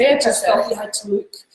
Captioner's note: laughing